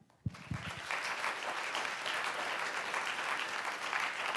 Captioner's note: audience applauds